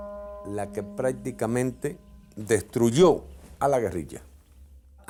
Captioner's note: Spanish spoken audio